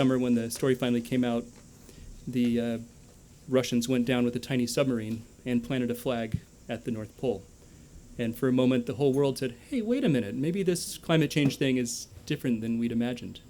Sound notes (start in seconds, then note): none